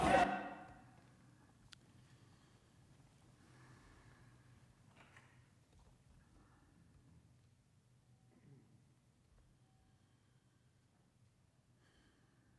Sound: yelling

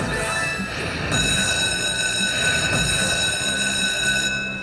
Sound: bell ringing

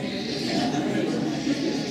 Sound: laughing

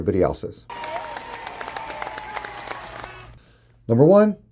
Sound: clapping And Cheering

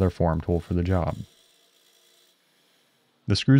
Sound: grinder whirring

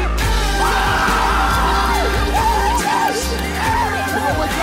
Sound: players cheer

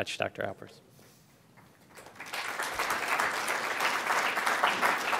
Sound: applause

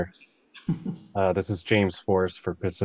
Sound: senator chuckles

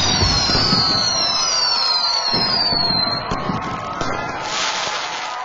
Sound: crowd cheering

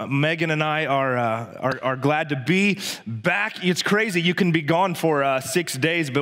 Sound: none

